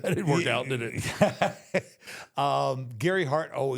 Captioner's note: Michael laughs